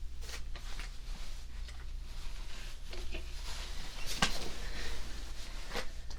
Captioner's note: shuffling around